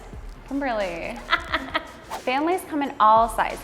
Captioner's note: laughs